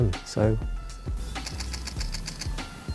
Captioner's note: camera shutter clicks